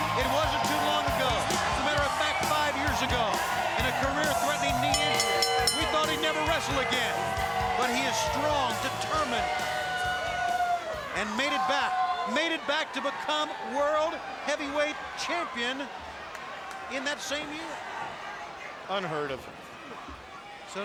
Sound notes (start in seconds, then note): 4.3 bell ringing; 10.1 audience cheering